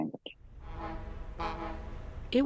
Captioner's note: boat horn blares